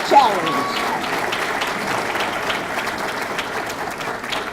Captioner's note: audience clapping